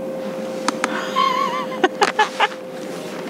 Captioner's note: laugh